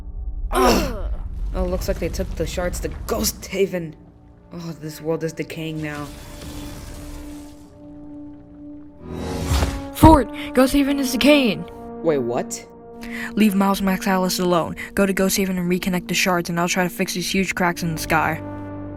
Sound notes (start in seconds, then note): 0.5 Fort and Miles groan; 5.6 portal noise plays as a portal opens; 9.0 Portal noise plays as Max exits the portal